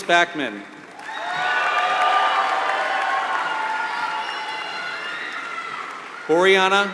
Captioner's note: applause